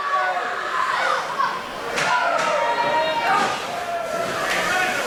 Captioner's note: crowd yell excitedly